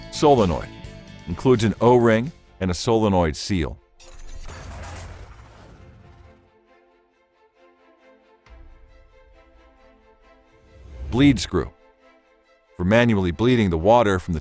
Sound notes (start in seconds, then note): 4.0 metal clanking; 6.6 bright instrumental music